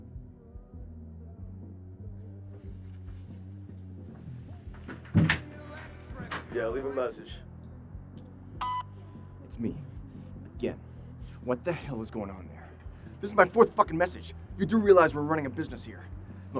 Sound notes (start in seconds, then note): 4.8 door rattling; 8.6 phone beeps